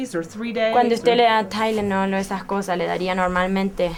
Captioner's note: speaking Spanish